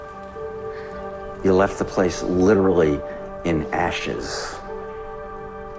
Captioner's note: voiceover